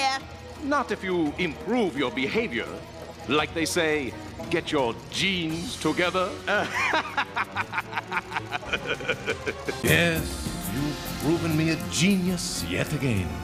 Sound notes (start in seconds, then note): 6.5 laughs at that cheesy pun